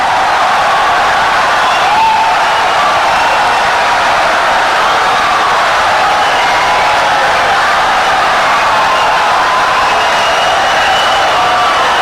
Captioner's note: wild applause and cheering for 17 seconds